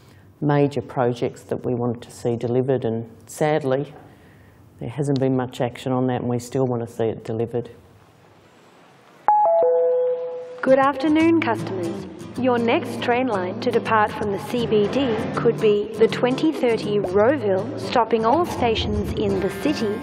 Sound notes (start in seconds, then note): 9.2 electronic bell